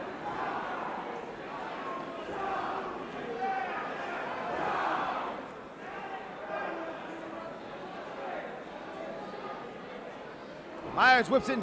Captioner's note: crowd chatter